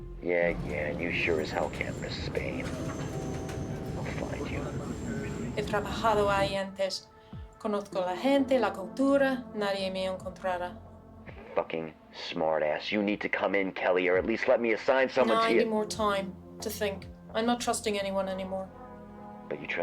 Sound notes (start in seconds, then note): 0.0 Kelly speaks French; 5.7 Kelly speaks Spanish